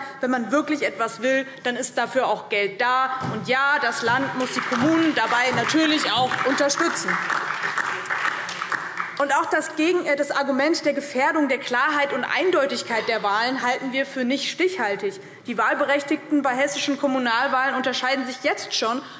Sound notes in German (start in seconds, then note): 7.1 Beifall DIE LINKE und vereinzelt SPD